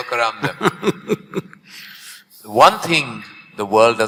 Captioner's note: Sadhguru laughs